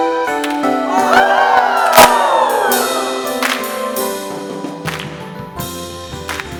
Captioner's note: cheering and rhythmic clapping